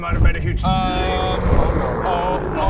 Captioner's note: huge mistake roars